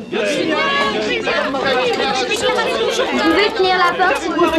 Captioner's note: vacuum whirring; reporters clamoring